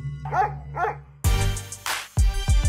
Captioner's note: dog barks; energetic hip-hop music